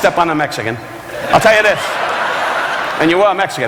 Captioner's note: audience laughing